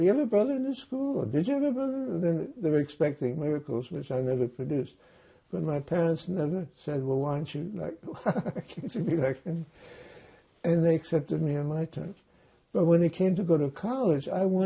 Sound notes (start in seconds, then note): 7.7 laughing